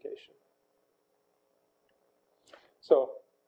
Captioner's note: pause